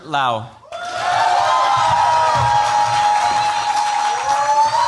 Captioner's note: cheers, applause